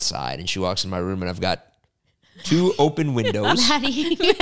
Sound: laugh

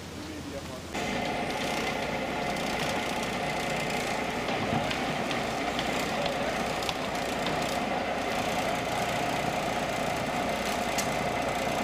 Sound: truck engine revving

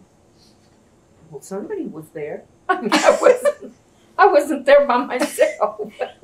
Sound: laughter

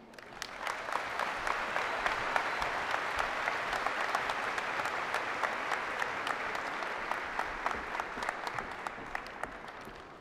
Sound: applause

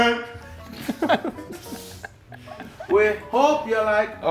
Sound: laugh

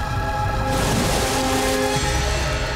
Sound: splashing

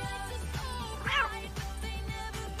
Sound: rebecca meows

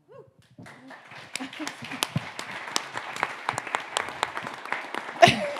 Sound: audience applauding

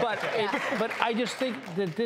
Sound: laughter

